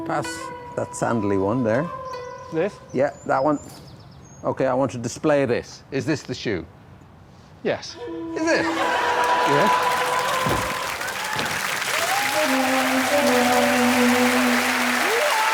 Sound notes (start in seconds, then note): 11.5 applause